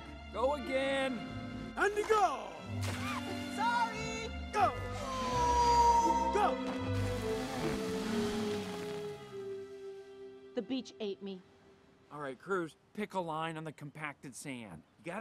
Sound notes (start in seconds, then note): 2.7 water splashing; 7.1 tires spinning